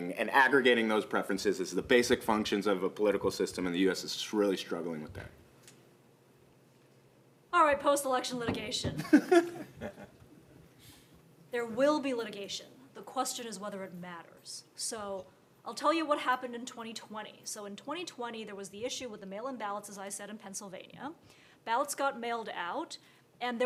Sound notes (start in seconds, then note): 9.0 participants laughing